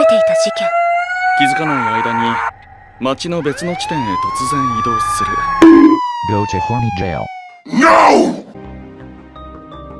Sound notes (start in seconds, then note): 5.6 bONK